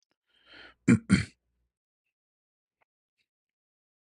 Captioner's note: berdehem